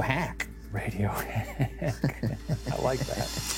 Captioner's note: laughs